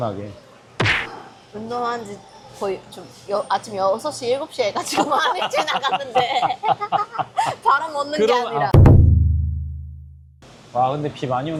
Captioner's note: laughs